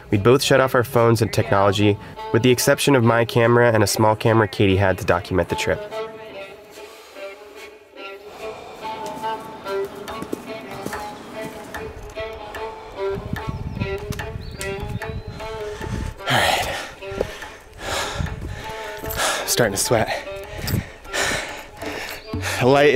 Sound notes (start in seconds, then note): 8.1 deep breathing in and out; 10.5 footsteps; 18.5 panting